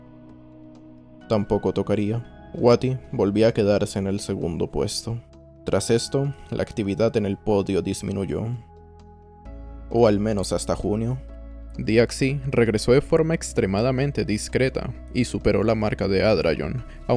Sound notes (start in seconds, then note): none